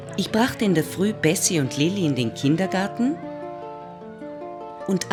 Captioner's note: German speaking continues